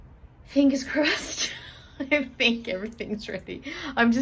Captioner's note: laughing nervously